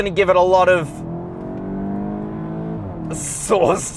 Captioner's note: car engine accelerating